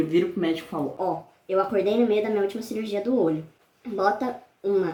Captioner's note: high pitched voice